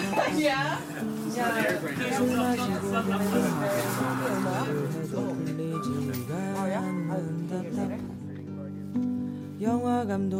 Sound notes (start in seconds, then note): 4.2 speaks Korean